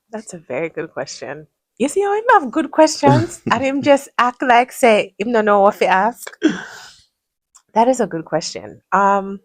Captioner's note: gasps